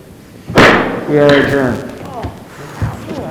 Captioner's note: gavel bangs; gasps